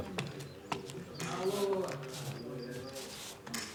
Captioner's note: indistinct chatter